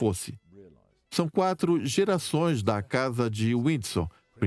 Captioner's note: voiceover